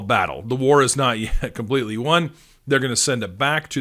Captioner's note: chuckling